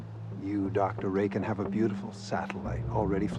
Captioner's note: none